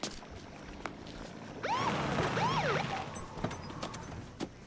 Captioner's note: siren chirps